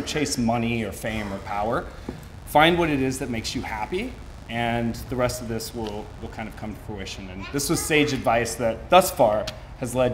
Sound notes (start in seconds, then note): none